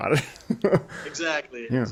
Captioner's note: chuckling